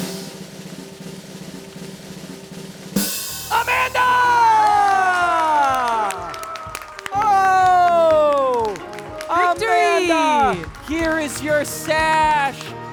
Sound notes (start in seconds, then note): 0.2 drum roll rattling; 4.5 audience cheering; 5.4 audience applauding